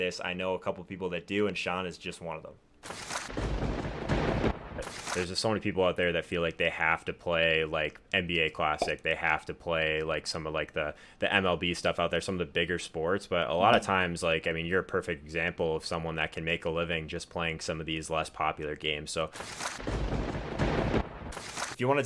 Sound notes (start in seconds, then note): 2.9 lightning striking; 8.7 logo popping; 13.7 logo popping; 19.5 lightning striking